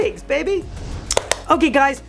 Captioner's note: clapping